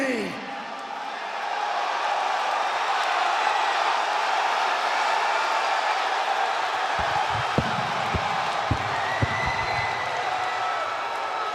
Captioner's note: crowd cheering